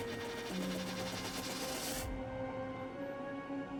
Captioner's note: machine buzzing loudly